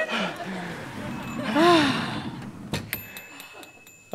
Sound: panting; bell dinging

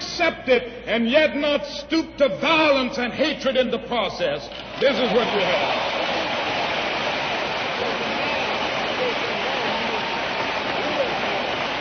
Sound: applause

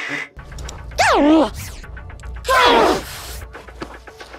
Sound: more distorted pain

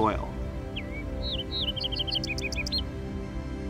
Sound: fox sparrow sings

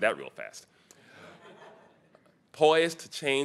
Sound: audience chuckling

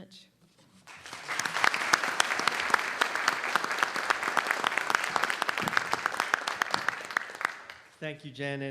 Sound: applause

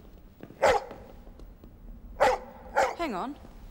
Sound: barking

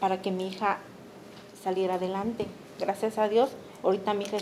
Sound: speaking Spanish

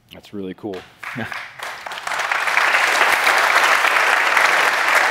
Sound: applause

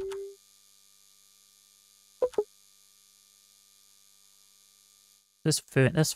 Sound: beeping

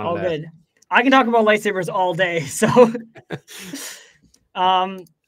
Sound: laughs

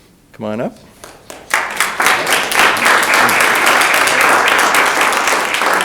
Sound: audience applauding

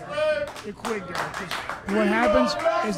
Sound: chanting

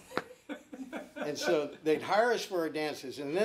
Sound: laughing

